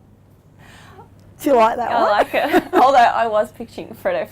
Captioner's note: laughs